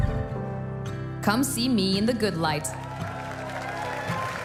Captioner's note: cheers and applause